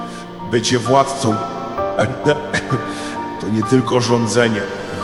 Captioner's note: coughing